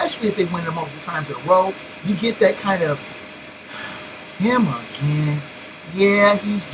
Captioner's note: sigh